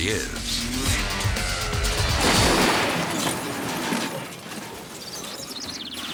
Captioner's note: ATV accelerates and crashes